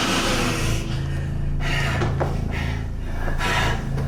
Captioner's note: Dracula growls